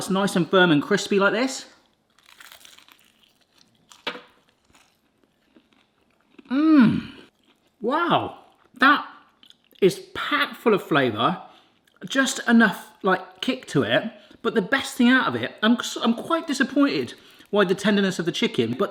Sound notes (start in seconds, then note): 2.4 munching